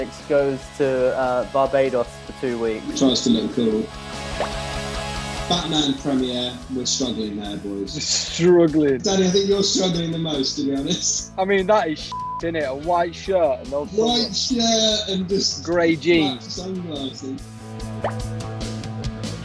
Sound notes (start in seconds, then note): 8.5 laughing; 12.1 beep